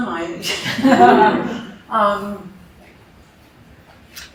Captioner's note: laughter